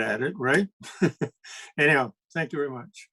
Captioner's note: laughs